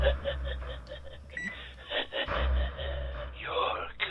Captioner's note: evil laughing